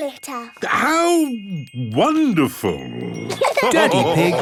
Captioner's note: laughter